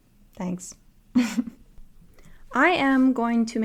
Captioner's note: laughter